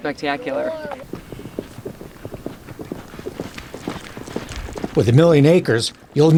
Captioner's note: hooves clattering